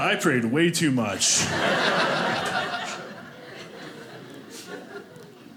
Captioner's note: audience laughing